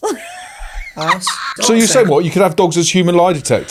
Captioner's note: laughing